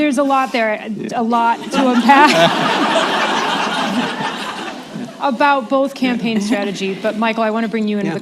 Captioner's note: laughter